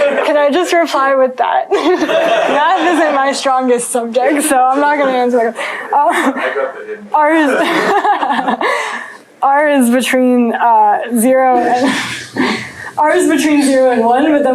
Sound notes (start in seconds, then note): 7.5 laughter